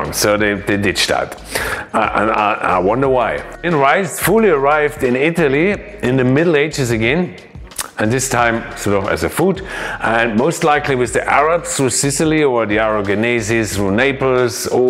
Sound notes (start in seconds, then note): none